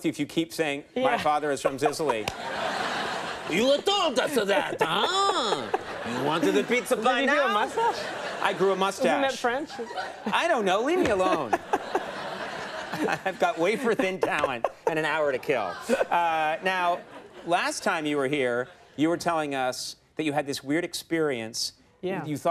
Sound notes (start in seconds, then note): 2.3 Michael and audience laugh; 11.7 Michael and audience laugh